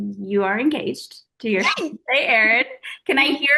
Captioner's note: laughing